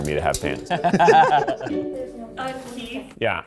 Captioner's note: laughing